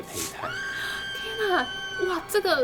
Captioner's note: screaming sound effect